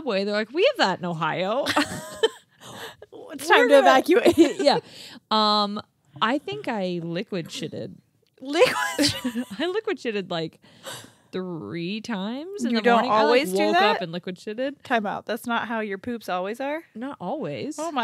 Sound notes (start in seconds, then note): 1.6 laughing